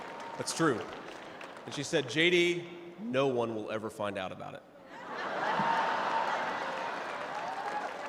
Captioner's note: laughter